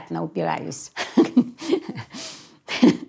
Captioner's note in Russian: смеется